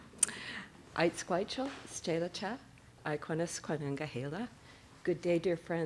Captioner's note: speaking SENĆOŦEN